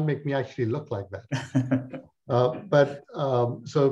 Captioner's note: laughs